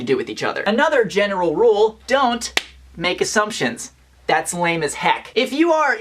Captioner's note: claps